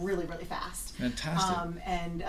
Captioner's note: voiceover